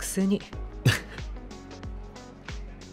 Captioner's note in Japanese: 小さく笑う